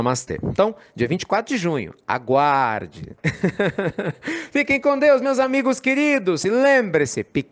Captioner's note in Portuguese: Risos